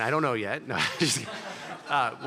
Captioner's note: laughter